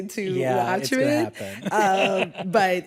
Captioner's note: laughter